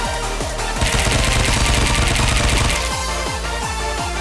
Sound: smash

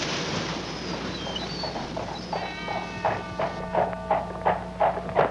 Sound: horse hooves clopping

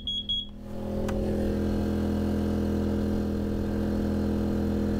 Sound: machinery whirring

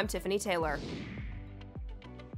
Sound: air whooshing; upbeat music

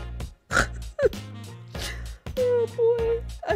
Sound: snorts

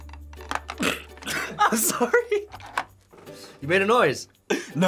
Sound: laughs

